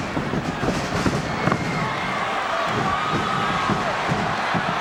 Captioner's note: audience cheering